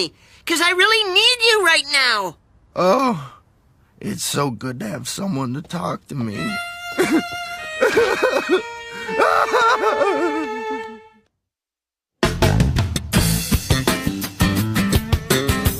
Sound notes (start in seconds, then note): 8.8 sobbing